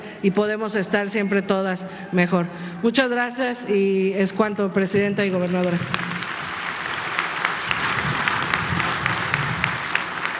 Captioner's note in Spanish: aplausos